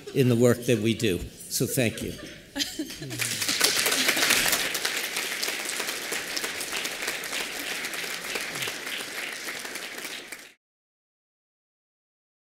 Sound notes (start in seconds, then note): 3.1 applause